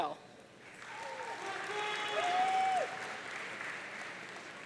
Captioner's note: audience cheering